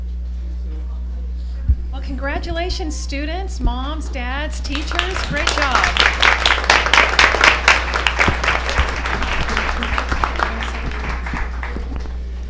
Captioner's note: applause